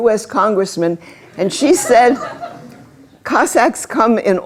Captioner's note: laughter